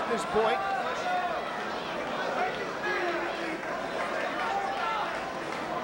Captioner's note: spectators cheering